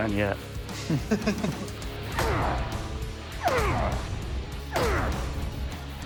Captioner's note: laughs; grunting